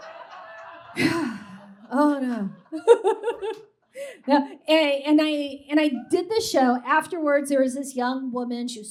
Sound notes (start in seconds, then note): 0.7 sharp sigh